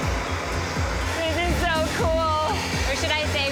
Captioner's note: blowtorches hissing